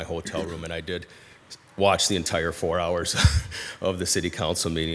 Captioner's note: laughs